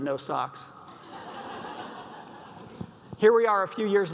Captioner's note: audience laughs